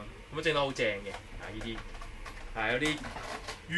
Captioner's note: Cantonese